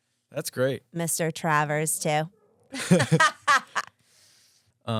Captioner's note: laughs